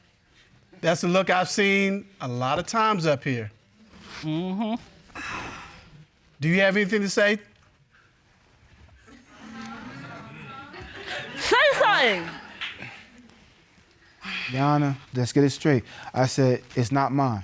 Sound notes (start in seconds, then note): 4.2 sighs